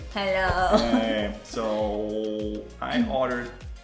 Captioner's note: con voz ebria